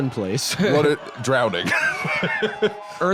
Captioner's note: laughs